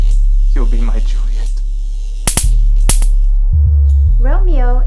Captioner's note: electricity buzzes